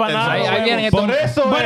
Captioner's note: speaking In Foreign Language